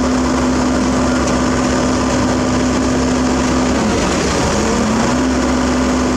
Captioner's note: engine